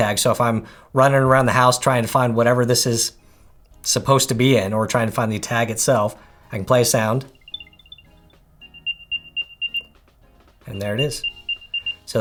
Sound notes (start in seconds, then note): 7.3 machine beeping